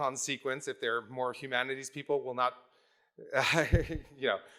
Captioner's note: laughs